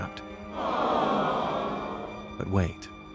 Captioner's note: people shouting